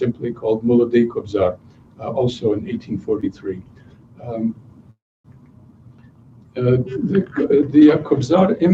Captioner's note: non-english speech